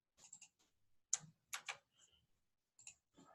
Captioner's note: typing